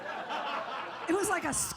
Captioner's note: audience laughs